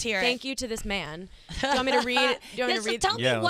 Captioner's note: laughs